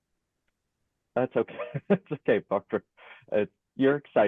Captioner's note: laughs and speaks indistinctly